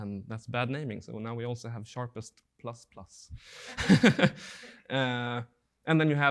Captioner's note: laughing